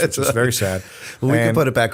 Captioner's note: laughter